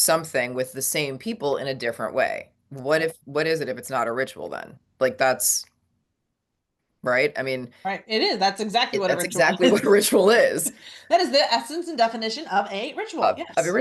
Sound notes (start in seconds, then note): 9.1 laughs